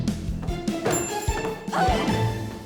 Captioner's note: door closes; Anna grunts